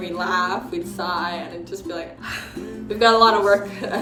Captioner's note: sighs